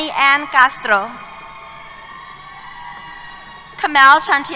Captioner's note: cheers